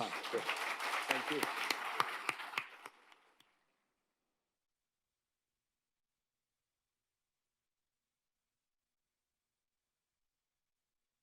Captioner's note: applause